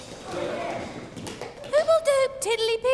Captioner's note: kids playing